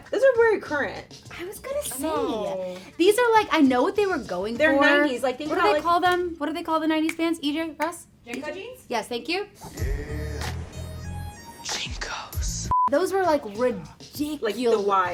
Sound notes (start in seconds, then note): 9.6 R&B music; 12.7 beep